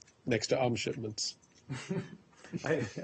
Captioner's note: laughter